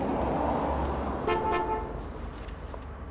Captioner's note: horn honks